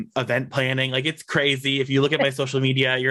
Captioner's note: laughs